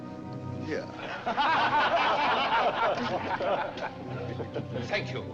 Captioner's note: the men laugh